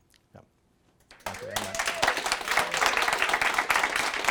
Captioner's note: applause